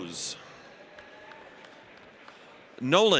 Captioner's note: audience applauds